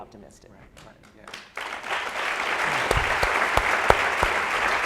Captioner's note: applauding